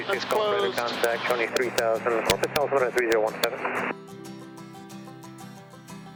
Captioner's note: loud statics